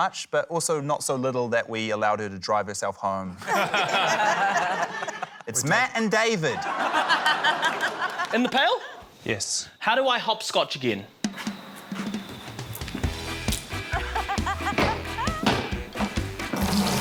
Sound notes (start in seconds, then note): 3.4 laughter; 7.2 laughter; 13.0 quirky ska music